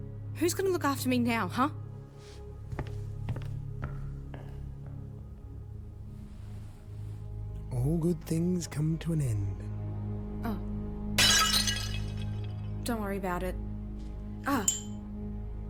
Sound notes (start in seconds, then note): 2.2 footsteps walk away